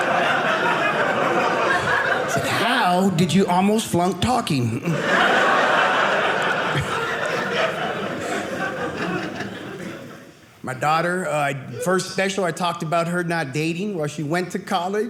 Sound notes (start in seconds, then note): 4.8 audience laughing